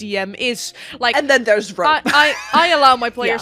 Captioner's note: laughs